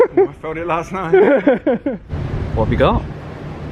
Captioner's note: laughs